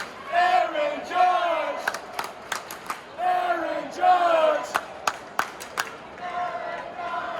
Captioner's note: clap clap, clap-clap-clap